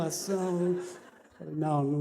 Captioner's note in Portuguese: risos